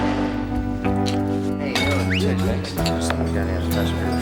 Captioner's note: whistles